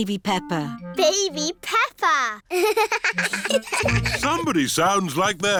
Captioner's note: both laugh